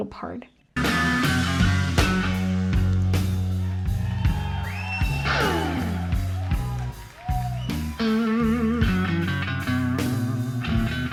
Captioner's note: cheering